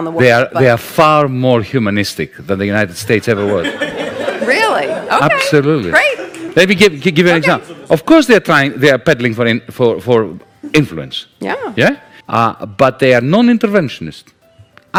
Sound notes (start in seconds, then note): 3.2 laughter